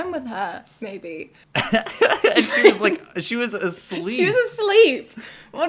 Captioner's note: laughter